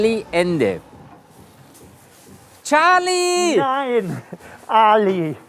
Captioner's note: calls